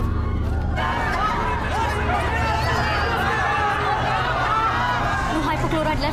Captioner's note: pandemonium